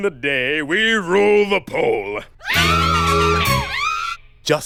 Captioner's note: girly screams of adoration